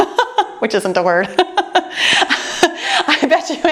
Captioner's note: laughing